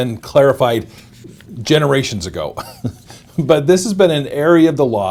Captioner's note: laughs